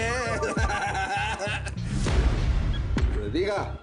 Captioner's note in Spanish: Risas